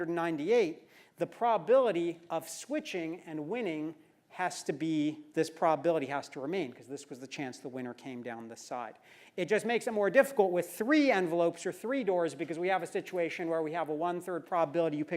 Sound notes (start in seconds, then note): none